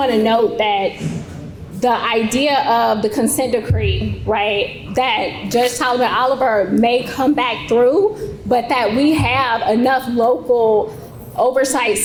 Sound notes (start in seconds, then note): none